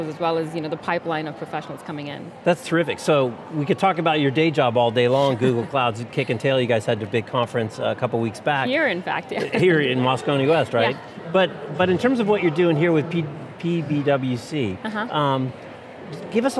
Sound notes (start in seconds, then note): 5.2 laughs; 9.3 chuckles